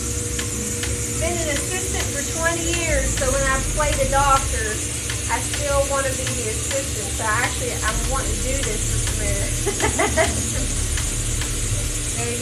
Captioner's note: laughs